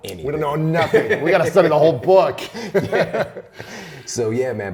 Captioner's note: laughter; laughs